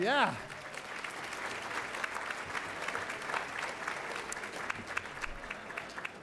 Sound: applause

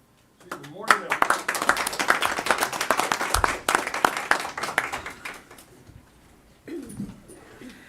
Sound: applause

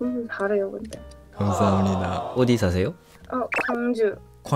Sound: Korean

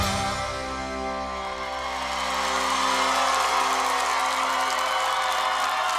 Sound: audience cheers

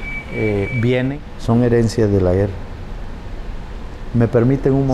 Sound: speaking in foreign language

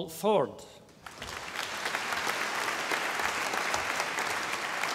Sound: audience applauding

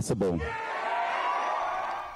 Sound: cheering and applause

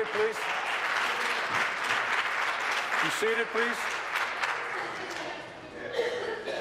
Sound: applause

